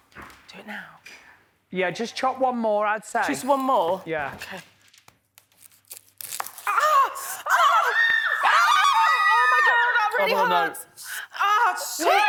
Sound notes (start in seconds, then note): 6.6 screams